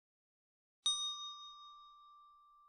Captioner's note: ding